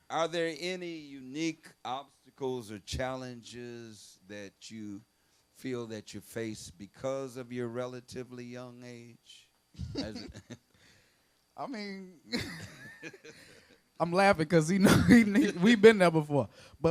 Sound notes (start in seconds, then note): 9.8 laughs; 12.3 both laughing